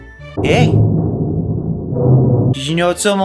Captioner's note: creepy ambience sounds